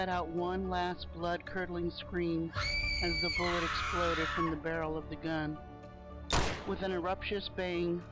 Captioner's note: screams